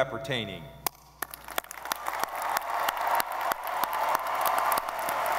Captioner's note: audience applauding